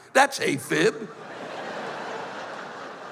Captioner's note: laughter